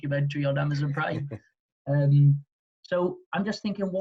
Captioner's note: laughing